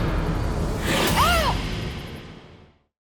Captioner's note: pained shouting